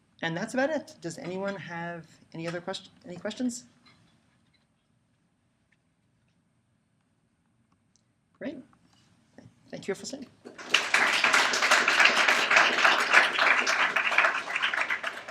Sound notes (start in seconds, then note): 10.5 applause